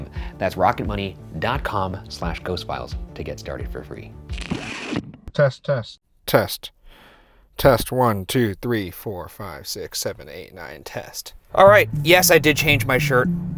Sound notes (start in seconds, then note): 4.4 chicken crunching; 4.4 static hissing